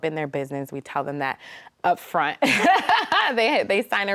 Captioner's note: laughs